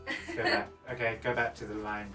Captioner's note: laughing